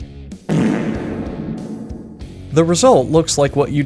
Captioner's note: fart with reverb